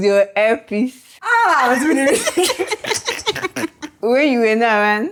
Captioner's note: laughs